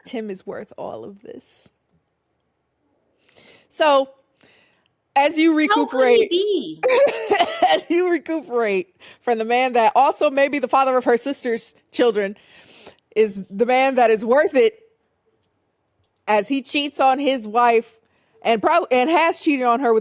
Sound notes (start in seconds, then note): 7.1 laughing